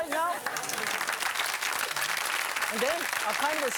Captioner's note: audience applauding